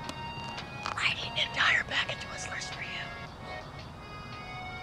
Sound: whispering loudly

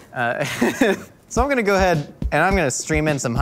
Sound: laughs

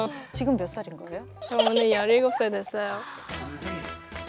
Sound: tee-hee

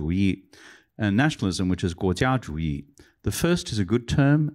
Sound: non-english; non-english

